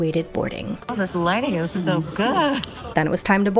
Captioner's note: hoots, sarcastically; laughs